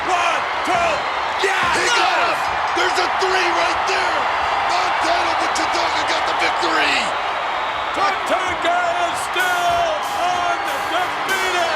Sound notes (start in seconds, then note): 2.4 bell rings; 4.1 audience cheers